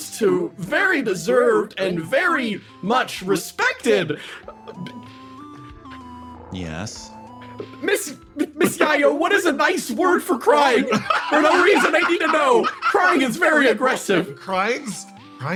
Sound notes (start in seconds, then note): 10.9 cackling